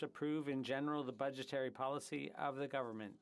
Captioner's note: speaking French